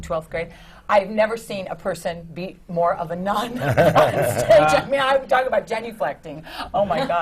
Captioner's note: laughs